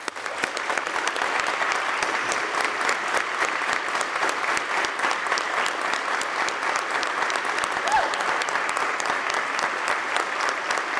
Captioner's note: applause